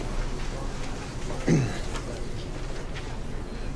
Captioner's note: clears throat